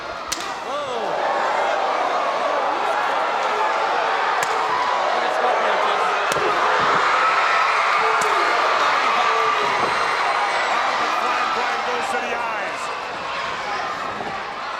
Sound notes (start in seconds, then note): 0.2 audience gasping; 6.2 crowd cheering